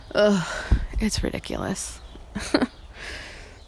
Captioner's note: laughs